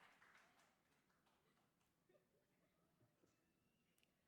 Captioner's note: cheers and Applause